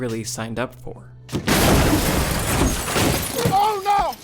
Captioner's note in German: lauter Aufschlag